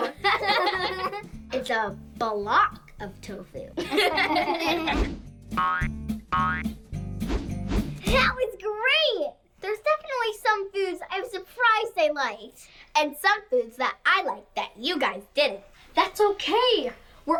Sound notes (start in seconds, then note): 0.0 laughs; 3.8 laughs; 5.7 playful music